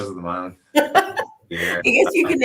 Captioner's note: laughing